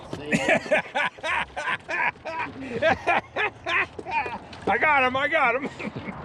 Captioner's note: laughing